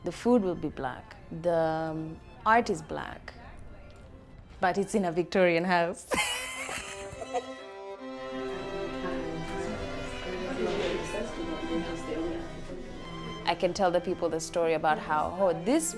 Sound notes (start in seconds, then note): 6.2 laughs; 8.0 classical music